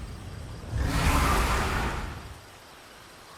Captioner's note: roar